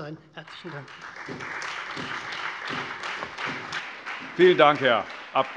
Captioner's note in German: Beifall Freie Demokraten, vereinzelt CDU, BÜNDNIS 90/DIE GRÜNEN und SPD